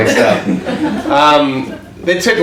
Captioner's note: audience laughs